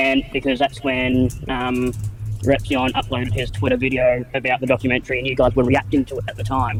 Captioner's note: none